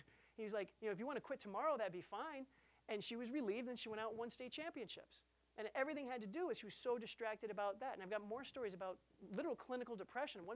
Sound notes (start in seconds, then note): none